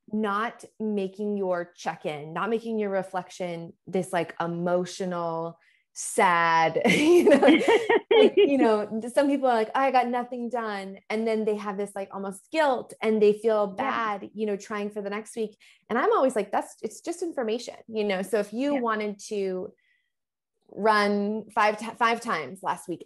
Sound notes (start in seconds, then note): 6.9 both laughing